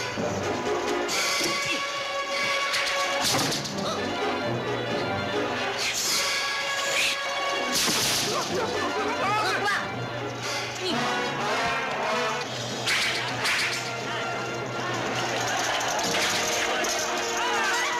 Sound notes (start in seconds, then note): 12.8 whistling